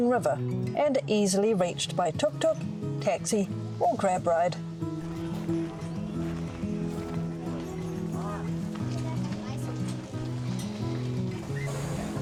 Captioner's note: sizzling pancakes